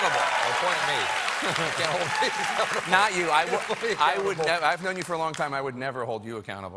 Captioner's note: cheers and applause